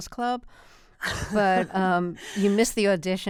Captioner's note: laughter